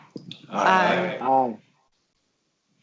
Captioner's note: multiple voices